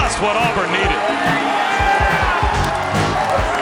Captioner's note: cheering